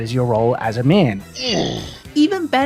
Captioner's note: Donkey Kong noise